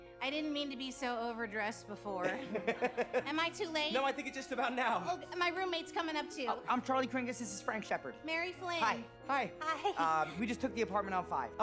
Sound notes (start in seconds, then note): 2.2 laughs